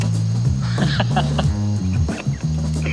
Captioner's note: laughter